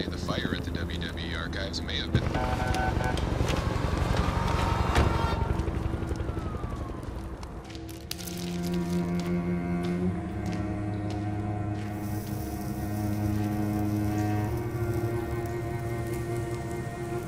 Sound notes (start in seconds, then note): 5.3 sirens; 13.8 sizzling